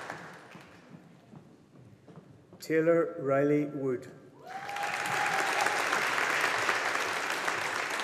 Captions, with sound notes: Taylor Rylie Wood. (AUDIENCE APPLAUDING)